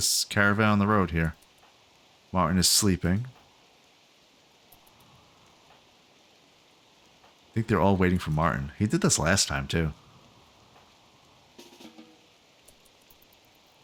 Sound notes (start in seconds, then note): 3.4 silence; 11.9 silence